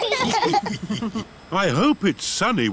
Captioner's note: laughter